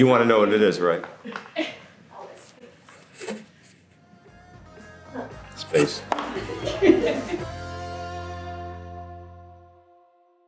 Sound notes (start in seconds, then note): 5.9 women laughing in background